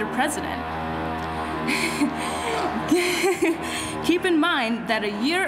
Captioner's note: drilling sounds